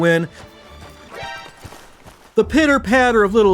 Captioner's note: pitter-patter of little feet